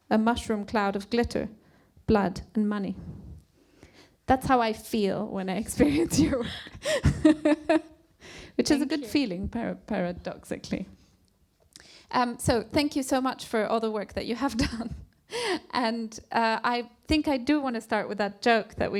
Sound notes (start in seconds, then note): 8.1 laughs